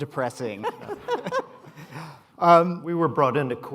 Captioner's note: laughter